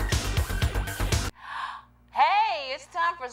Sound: gasps

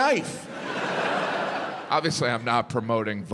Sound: audience laughs

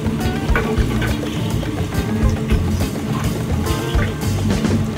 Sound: milk bubbling

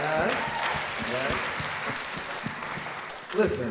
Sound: audience cheering

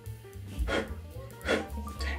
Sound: blows hair off phone

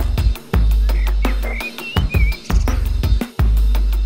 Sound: birds singing

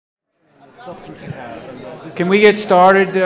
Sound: crowd chattering

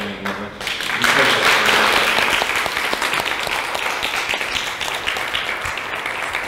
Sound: applause

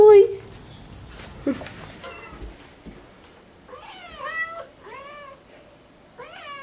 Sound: cats meowing

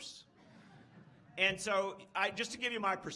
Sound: laughs

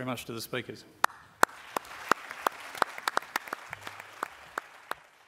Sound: applause

